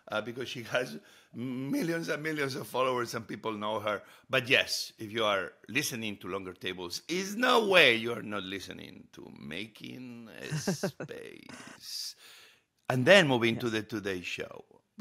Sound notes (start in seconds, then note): 10.4 Hoda chuckles